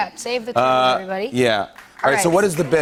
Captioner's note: applause